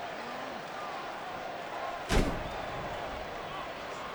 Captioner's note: crowd murmuring